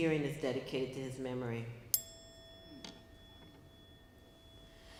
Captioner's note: bell tone sounding